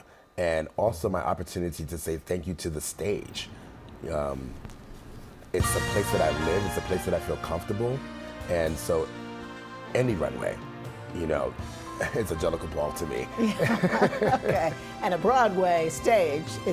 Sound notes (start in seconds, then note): 4.4 record crackling; 5.6 dance music starts; 13.5 laughing